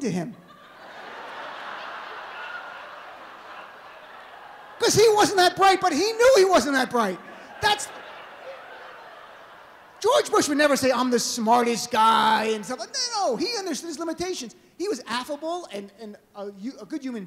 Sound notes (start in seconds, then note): 0.1 laughter